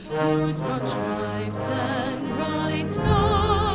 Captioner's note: none